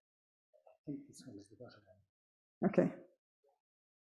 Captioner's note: murmuring quietly